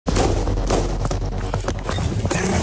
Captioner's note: gunshots, energetic music